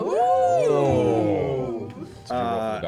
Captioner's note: oohing